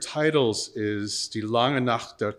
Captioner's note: speaking in foreign language